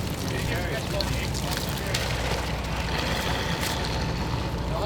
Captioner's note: fishermen chat; water sloshes